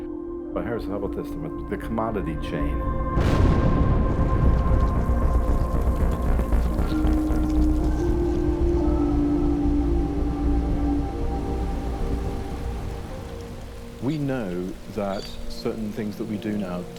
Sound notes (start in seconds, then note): 3.0 explosion booms